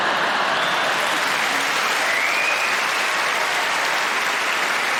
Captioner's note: audience laughing; audience cheering